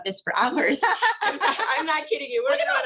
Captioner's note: women laugh